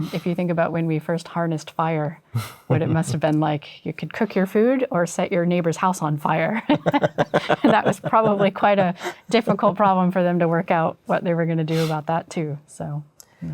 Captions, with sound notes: If you think about when we first harnessed fire, what it must have been like. You could cook your food or set your neighbor's house on fire. [LAUGHTER] And that was probably quite a difficult problem for them to work out what they were going to do about that, too.